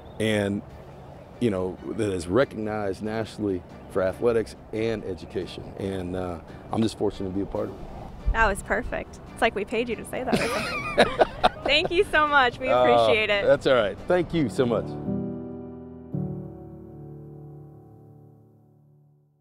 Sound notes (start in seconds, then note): 10.2 chuckles; 15.6 bright music